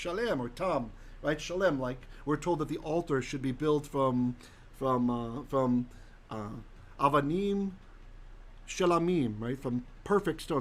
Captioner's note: Hebrew